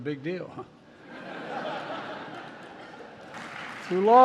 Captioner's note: laughter